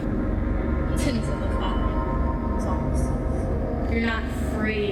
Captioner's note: voz ecos